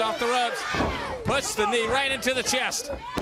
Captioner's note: crowd chatter